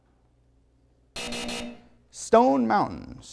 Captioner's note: buzzer